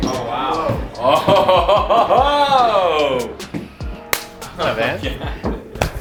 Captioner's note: laughs